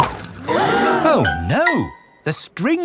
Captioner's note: all gasp